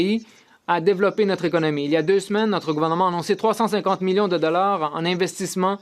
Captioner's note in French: voix de l'interprète